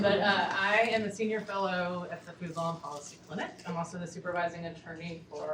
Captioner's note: none